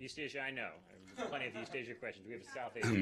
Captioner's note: laughter